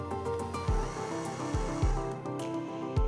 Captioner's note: telescope whirring